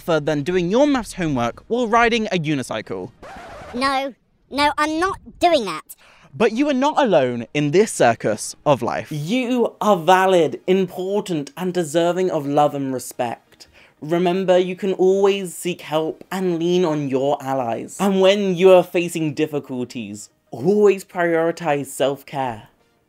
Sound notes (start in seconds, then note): 3.2 record scratch; 3.7 high pitched voice